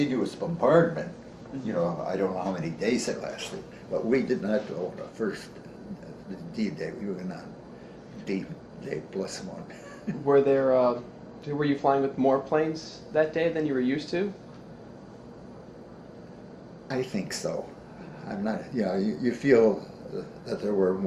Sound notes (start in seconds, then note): 9.6 chuckles